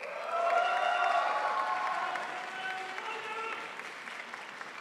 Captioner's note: crowd applauds